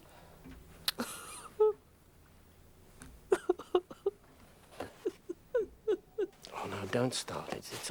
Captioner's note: Homily sobs